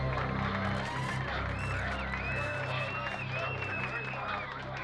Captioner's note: cheers, whistling